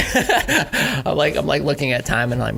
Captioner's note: laughs